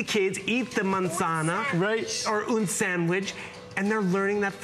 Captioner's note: foreign language